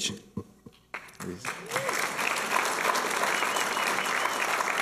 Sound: applause

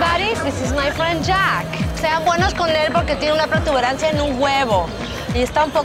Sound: speaking Spanish

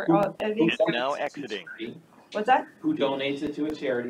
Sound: indistinct chatter

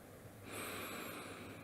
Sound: snoring

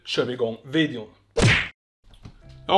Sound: smack

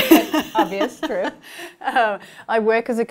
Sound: laughing

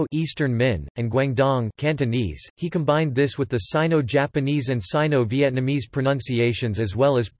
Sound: Cantonese

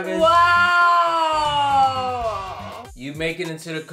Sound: children cheering

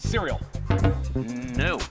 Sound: short beep

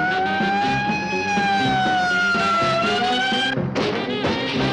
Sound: siren wailing; upbeat jazz music

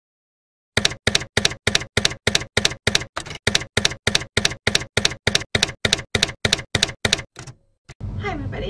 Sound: typewriter keys clacking

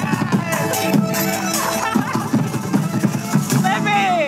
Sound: laughing

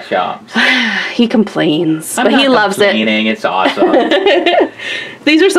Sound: sighs; laughs

